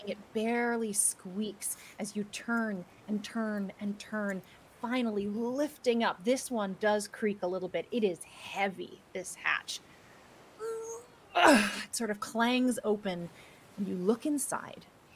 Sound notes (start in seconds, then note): 10.6 person grunting